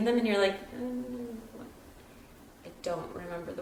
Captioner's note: humming